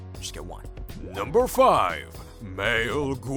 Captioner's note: deep Voiceover